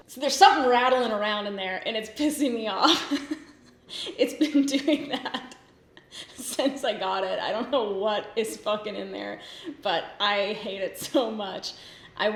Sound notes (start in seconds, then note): 2.8 laughs